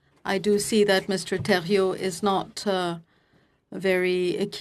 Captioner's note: speaking FRENCH